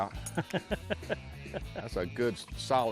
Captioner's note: laughs